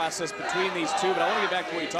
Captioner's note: audience chanting